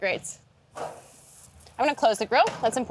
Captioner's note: dough sizzling